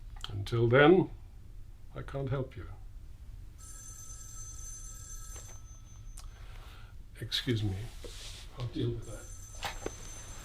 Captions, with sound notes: Until then, I can't help you. (phone ringing) Excuse me. I'll deal with that.